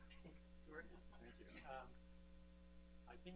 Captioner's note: laughter